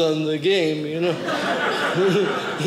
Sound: audience laughing

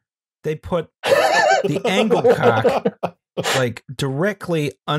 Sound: laughter

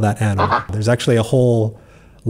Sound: quack

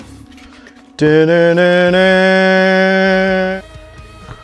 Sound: Zelda received an item sound

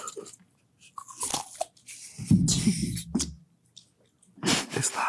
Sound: Jess laughing; cucumber crunching; Jess laughing

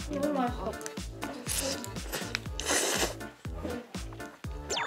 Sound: nom nom

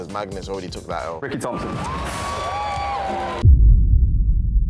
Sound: clapping

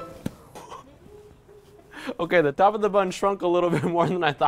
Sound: laughing

